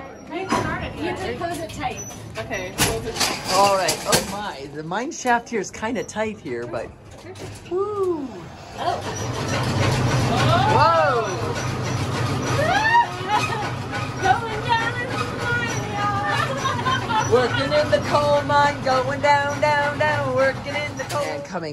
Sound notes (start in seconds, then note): 6.6 loud rattling shaking noises